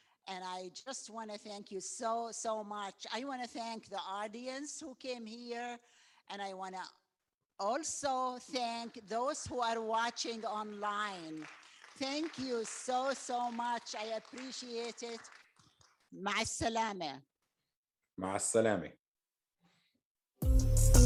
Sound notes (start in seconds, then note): 16.5 speaking in Arabic; 20.4 upbeat techno music